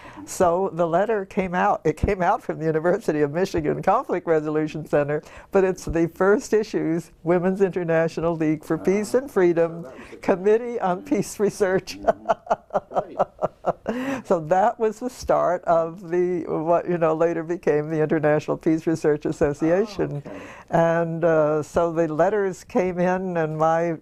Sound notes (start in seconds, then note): 11.5 laugh